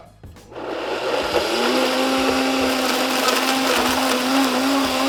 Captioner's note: blender spinning